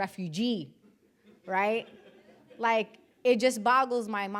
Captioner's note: audience laughing